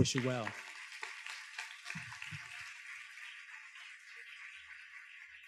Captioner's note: students claps